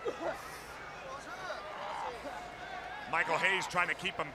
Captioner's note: crowd chatter